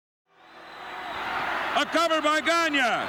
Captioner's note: crowd cheering